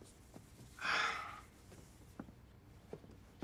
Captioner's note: Joe sighs